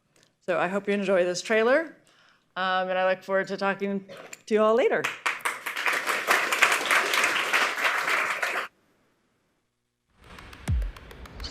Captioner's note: applause